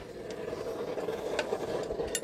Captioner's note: rattling